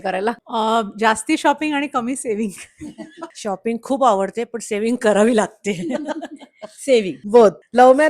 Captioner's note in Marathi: हास्य